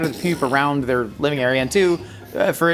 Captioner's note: imitates explosion